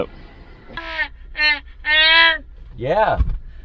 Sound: excited grunting

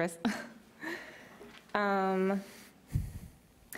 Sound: chuckles

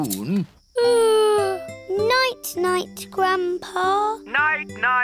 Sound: yawns

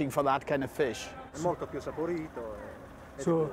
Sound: speaking Italian

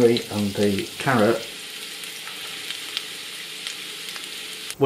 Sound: sizzle

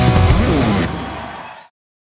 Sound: cheering

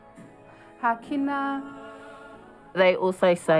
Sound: all inhale

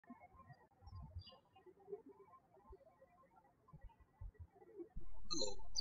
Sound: birds chirping

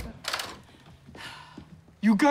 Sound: door opens; sighs

